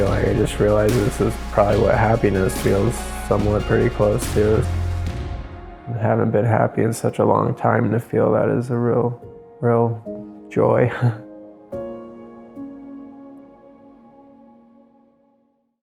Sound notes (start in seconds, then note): 11.8 laughs